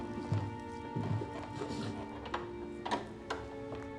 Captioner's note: door opens; door closes